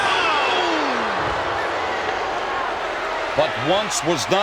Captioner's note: audience jeers